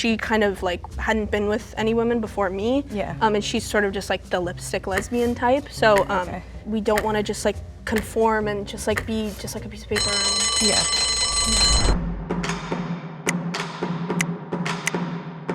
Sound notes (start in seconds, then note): 11.5 bell ringing; 12.4 smooth music